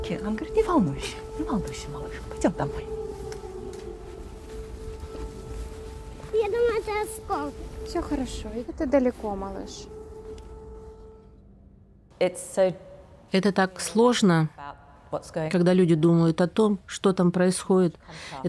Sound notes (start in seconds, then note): 3.7 sounds of sirens